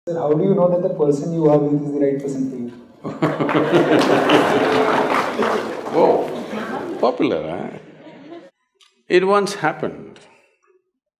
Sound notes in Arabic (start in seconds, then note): 3.0 ضحِك / تصْفيق; 8.6 ضحِك